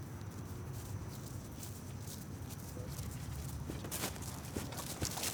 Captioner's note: footsteps pattering